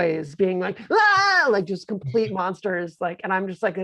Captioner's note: screaming